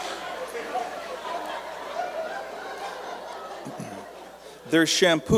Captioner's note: laughter